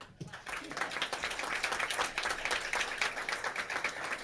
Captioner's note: clapping